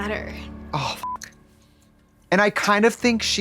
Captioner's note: beep